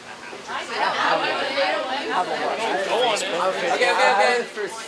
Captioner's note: class chattering